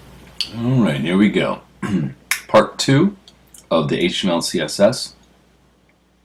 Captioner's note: cough